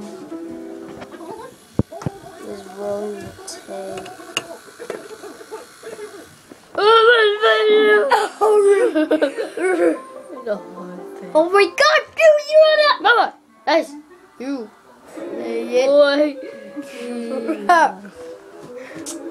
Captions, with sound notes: [Mechanical Whirring] [Laughing] Oh my god! You idiot!